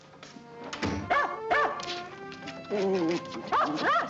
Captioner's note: dog barking